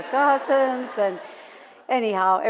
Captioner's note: laughter